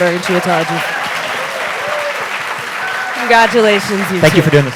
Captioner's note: audience applauding and cheering